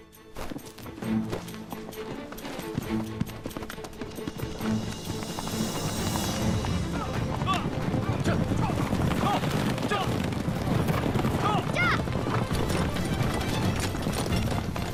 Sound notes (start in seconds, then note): 5.8 horse galloping; 12.2 horse galloping